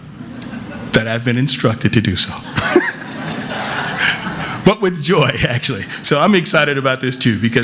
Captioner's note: laughter